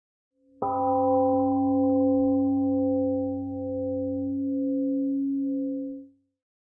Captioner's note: temple gong rings and fades 🎵